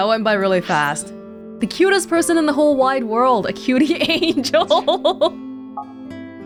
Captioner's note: chuckles